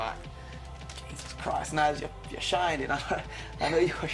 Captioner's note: laughs